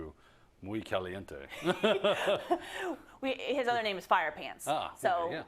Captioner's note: laugh